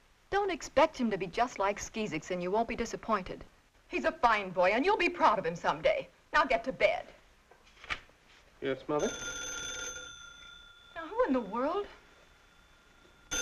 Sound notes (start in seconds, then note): 8.9 phone ringing